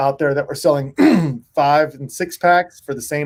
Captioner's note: clears throat